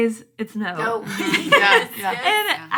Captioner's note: laughing